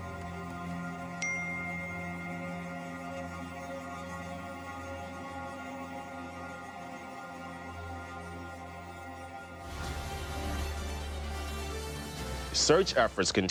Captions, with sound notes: [message alert dings] [news theme music playing] Search efforts continue today